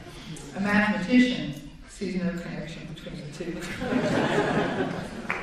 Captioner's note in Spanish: Risas